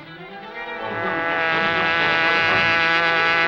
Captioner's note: buzzing